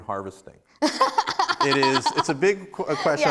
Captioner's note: laughs